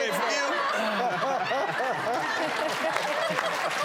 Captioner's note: audience laughing